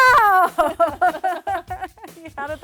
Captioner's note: laughing